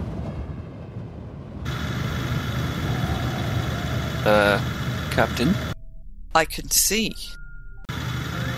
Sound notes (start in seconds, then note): 1.6 heavy motor noise